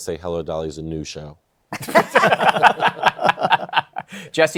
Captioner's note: laughter